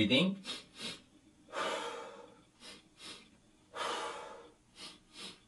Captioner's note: two inhalations and one exhalation